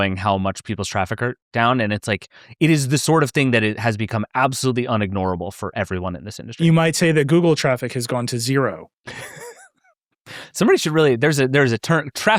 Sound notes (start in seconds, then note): 9.0 laughing